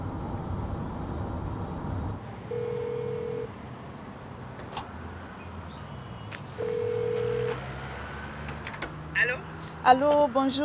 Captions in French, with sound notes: (dring!) - - Allô? - Allô, bonjour.